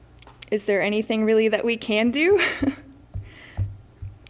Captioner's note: laughs